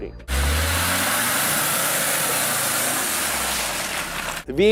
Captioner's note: car engine rumbles